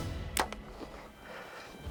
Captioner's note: intense orchestral music; bow twangs